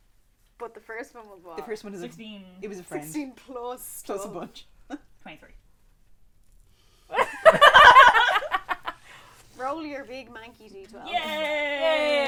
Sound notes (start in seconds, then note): 7.1 laughter; 7.2 deep sigh